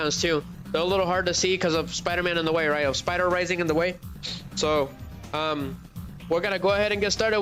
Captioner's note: snorts